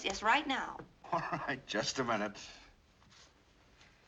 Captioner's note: chuckling